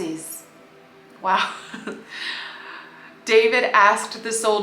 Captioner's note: wow *laughs